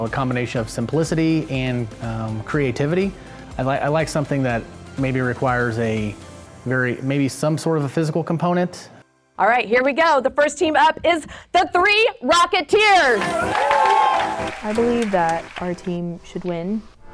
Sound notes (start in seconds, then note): 13.0 crowd cheers